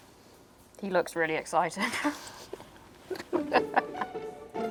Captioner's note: laughing; playful music